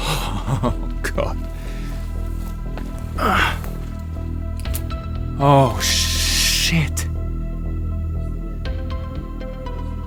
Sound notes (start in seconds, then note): 3.3 grunts